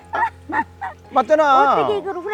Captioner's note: both laughing